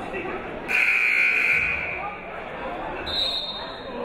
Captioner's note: buzzer blaring; whistle blowing